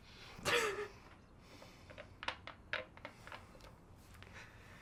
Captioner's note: soft laughter